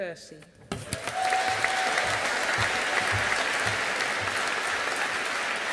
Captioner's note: audience applauding